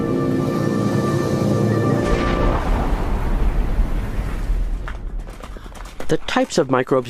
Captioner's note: wind and footsteps